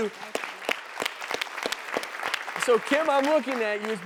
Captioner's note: audience clapping